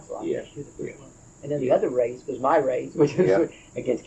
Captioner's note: laughs